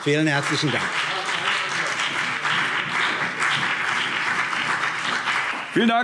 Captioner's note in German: Beifall CDU und BÜNDNIS 90/DIE GRÜNEN